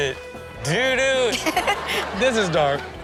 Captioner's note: Chanel giggles